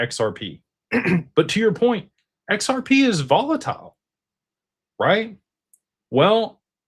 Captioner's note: clears throat